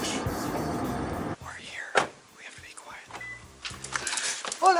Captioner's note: whispering